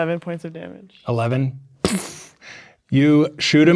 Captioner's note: imitates gunshot